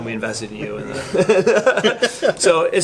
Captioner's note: laughs